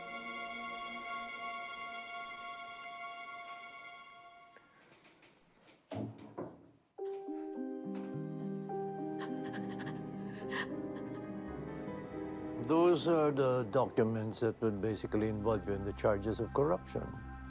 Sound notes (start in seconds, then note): 5.7 door closes; 9.9 breath quivers